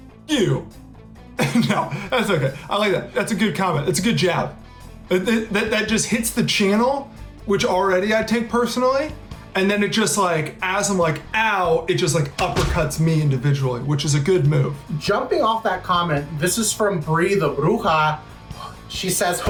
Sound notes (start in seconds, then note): 1.4 laughs